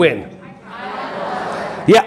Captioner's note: audience answering